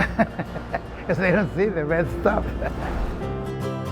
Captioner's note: both laughing; laughing; gentle guitar music